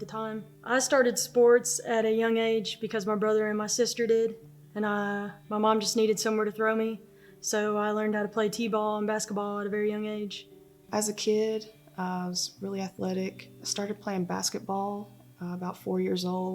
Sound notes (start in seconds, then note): none